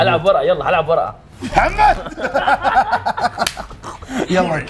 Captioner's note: laughter